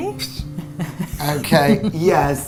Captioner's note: laughing